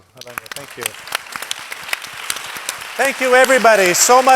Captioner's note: audience applauding